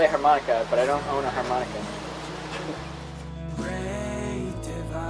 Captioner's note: laughing